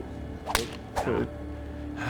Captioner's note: woosh; crack